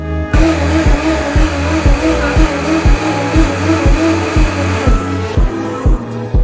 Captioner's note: ingredients blending